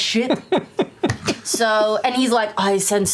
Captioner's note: laughter